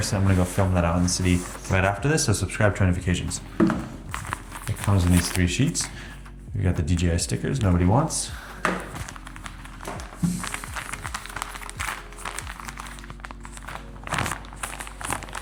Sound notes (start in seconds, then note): 9.8 plastic rustling